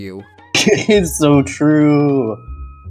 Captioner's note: laughs